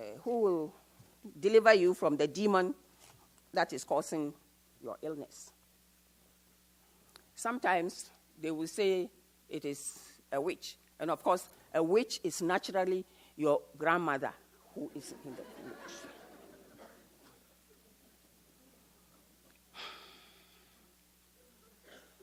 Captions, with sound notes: who'll deliver you from the demon that's causing an illness. Sometimes they will say that it is a witch. And of course a witch is naturally your grandmother who is in the village. (audience laughs)